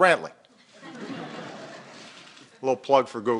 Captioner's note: laughter